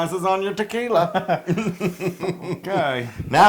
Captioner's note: laugh